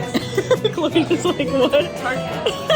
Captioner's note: laughing